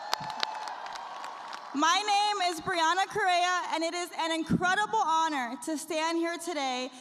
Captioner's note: cheers and applause